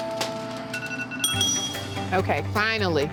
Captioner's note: alarm rings